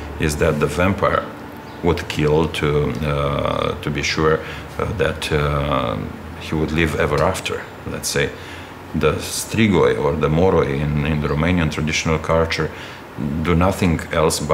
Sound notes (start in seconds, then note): 8.7 speaking in foreign language